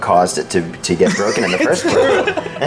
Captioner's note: laughter